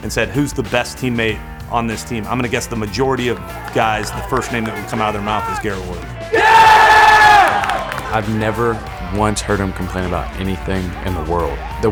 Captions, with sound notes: and said, "Who's the best teammate on this team," I'm going to guess the majority of guys, I'm going to guess the name that would come out of their mouth is Garrett Wood. [Cheering]. I've never once heard him complain about anything in the world.